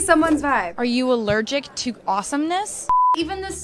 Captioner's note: beep